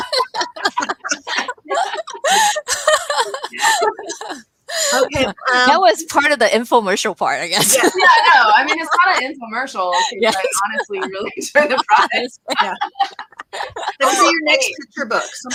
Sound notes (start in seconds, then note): 0.0 laughter; 7.9 laughs